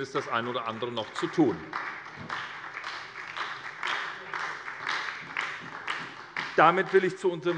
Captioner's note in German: Beifall bei der SPD